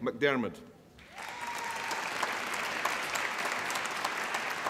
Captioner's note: applause